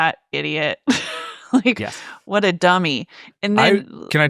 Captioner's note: laughs